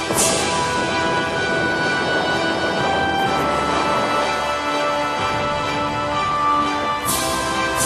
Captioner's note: artillery explodes; cannons fire